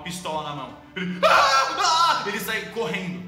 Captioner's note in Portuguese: gritos